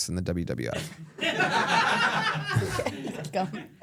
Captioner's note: everyone laughs